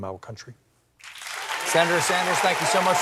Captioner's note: applause